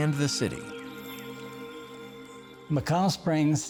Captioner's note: birds chirping